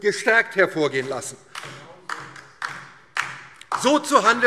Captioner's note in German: Beifall DIE LINKE